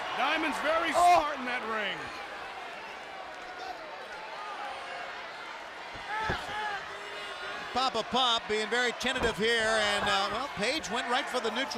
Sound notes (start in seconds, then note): 5.3 crowd chatter